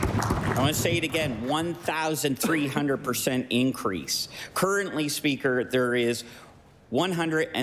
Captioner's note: applause